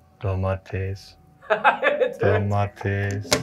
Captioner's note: voiceover